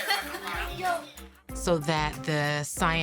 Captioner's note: children chattering